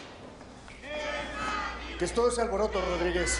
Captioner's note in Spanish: Griterío